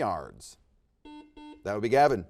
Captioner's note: buzzer dings